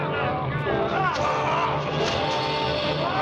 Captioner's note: grunting